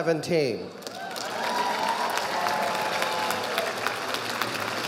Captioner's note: audience applauding